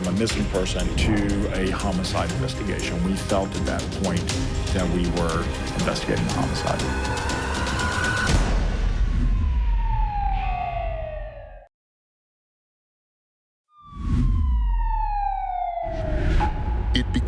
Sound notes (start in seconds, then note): 7.2 tense music; 9.3 colored bars whooshing; 9.3 siren wailing; 13.9 colored bars whooshing